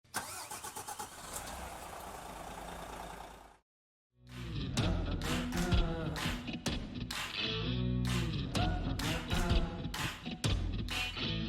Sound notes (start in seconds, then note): 0.2 bus engine revving; 4.3 upbeat music